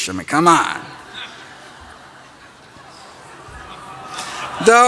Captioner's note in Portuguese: Risos